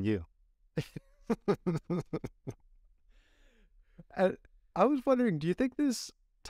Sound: laughter

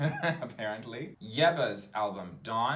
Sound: laughs

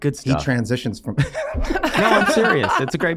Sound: all laughing

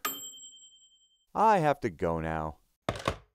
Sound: bell ringing

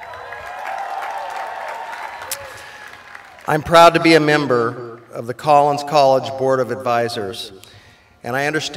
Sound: applause

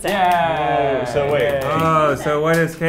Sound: cheer

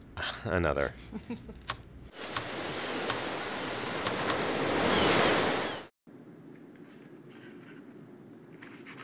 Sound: laughs, sound of clicking

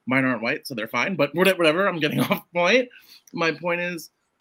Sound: laughs

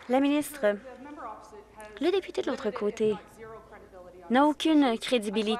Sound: applause

